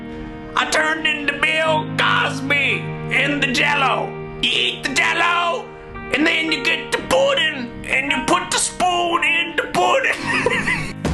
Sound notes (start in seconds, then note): 10.1 laughing